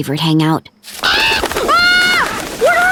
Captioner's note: screaming